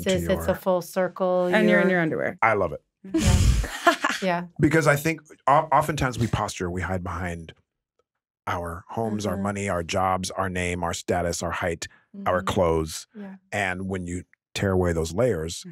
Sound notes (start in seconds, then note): 3.1 chuckles